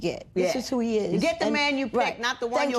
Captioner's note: none